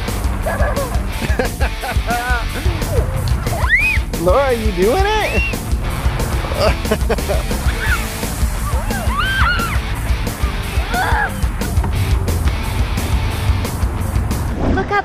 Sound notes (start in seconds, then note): 0.4 laughs